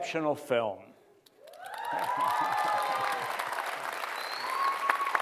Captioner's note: cheering and applause